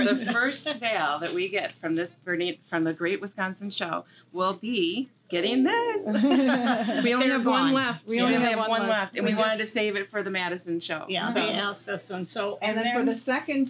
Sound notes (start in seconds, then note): 6.2 all laughing